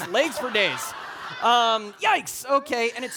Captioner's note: audience laughing